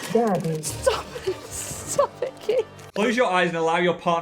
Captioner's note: laughing